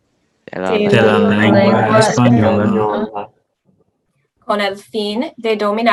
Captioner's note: speaking Spanish; group speaking Spanish; speaking Spanish